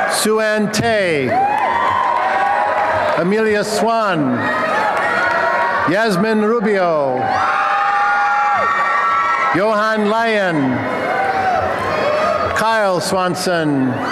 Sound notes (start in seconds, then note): 7.0 applause and cheering; 11.0 applause and cheering